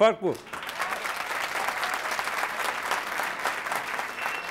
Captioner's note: applause